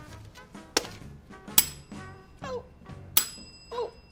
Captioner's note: bell rings